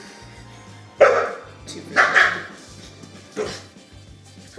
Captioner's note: dogs barking